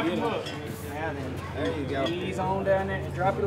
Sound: men talking

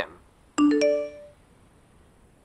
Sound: text sound

